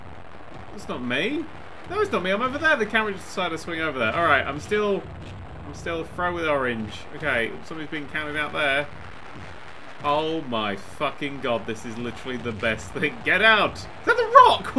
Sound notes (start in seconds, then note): none